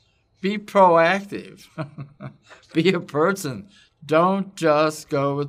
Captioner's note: laugh